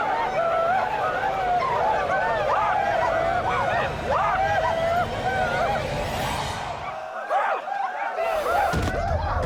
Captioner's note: whooping